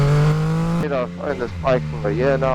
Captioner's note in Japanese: エンジン音